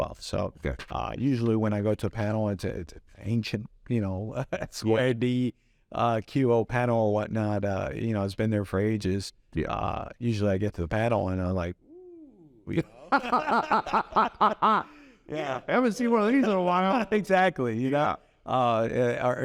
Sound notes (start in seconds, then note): 12.6 both laugh